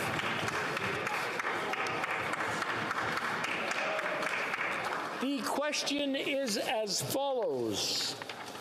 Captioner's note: applause